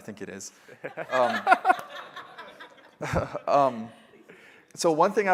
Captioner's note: laughter